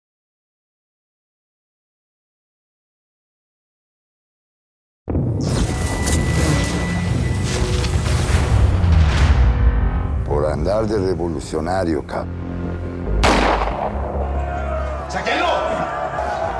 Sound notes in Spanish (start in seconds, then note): 13.2 Disparo; 14.0 Griterío